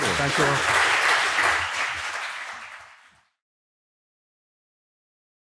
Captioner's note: audience applauding